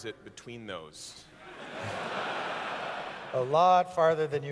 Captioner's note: laughter